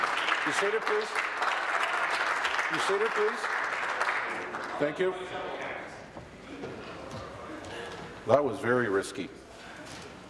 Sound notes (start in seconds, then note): 1.9 applause